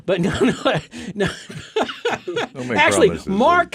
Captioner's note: laughing